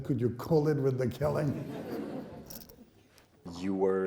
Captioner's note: laughing